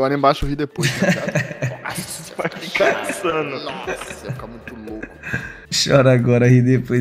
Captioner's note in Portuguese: risos